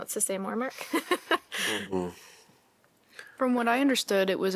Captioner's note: laughter